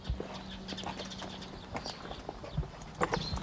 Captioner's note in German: Vogelgezwitscher